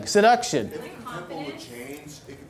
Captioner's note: voiceover